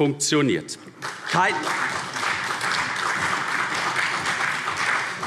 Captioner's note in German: Beifall